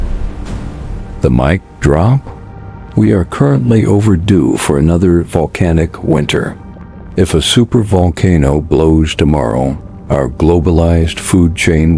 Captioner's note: sarcastic Commentary